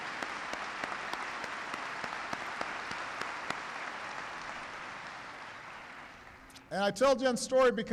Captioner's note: applause